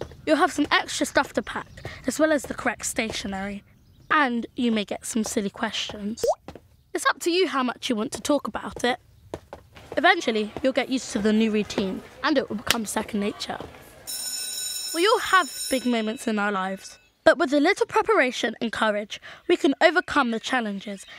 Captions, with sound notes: You’ll have some extra stuff to pack as well as the correct stationery and you may get some silly questions. (popping sound) It’s up to you how much you want to talk about it. Eventually you’ll get used to the new routine and it’ll become second nature. (Bell rings) We all have big moments in our lives but with a little preparation and courage we can overcome the challenges